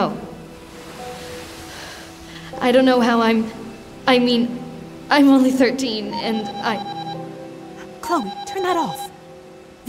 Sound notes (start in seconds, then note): 0.1 waves breaking; 6.1 alarm ringing